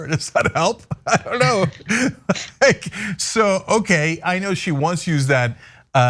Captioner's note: laugh